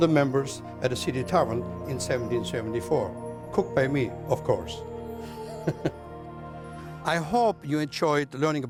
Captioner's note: laughs